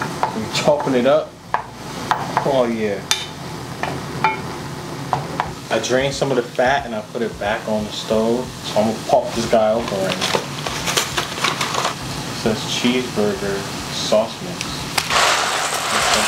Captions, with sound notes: I'm chopping it up. Ah yeah. (metal pan knocking) I drain some of the fat and I've put it back on the stove. So I'm gonna pop this guy open right here. (package rustles) Says, cheeseburger sauce mix.